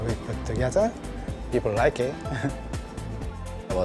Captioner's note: chuckles